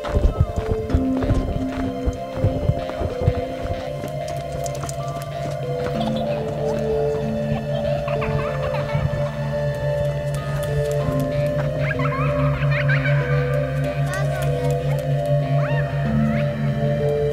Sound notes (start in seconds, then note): 0.1 eerie music; 6.4 child laughing eerily; 12.0 child laughing eerily